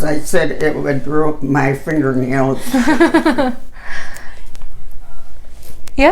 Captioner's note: laughs